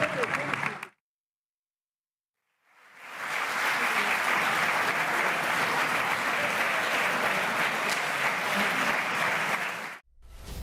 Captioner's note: applause